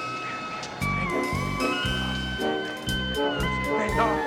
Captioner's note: shrieking